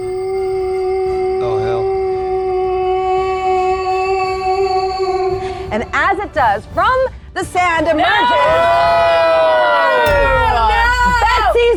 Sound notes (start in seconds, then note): 2.5 humming; 8.1 players shrieking